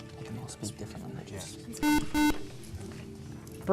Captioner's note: beeping